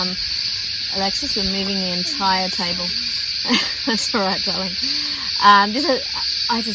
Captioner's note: chuckles